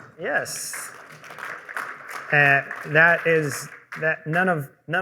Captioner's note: applause